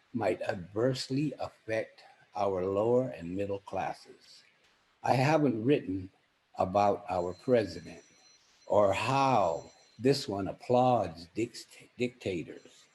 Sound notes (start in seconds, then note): 7.6 phone rings